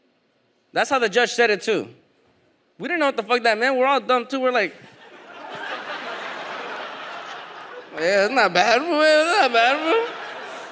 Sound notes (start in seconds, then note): 4.9 audience laughs